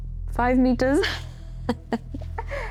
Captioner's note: laugh